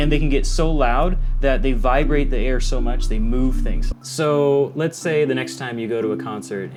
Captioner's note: bass rumble